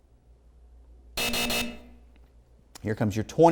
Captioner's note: hard buzzing